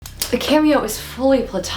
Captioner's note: pen click